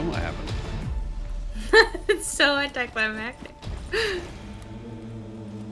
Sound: laughs

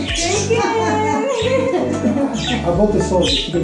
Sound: laughing

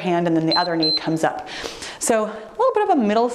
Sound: timer beeps

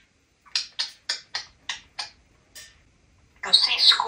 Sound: lip smacking sound

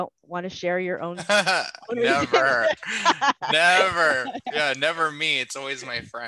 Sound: laughter

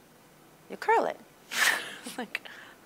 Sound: chuckling

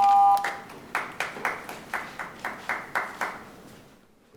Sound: audience applauding

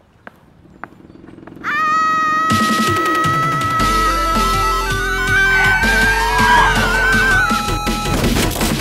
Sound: motorcycle and scream

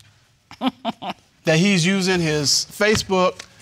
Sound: chuckles

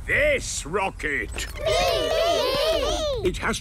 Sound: calling out in turn

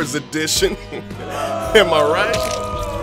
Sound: laughs; booing

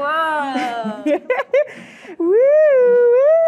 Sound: giggling Excitedly

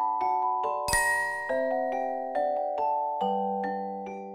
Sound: gentle music; chiming

